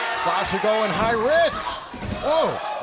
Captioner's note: crowd chatter